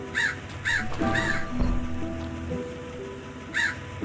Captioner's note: bird calls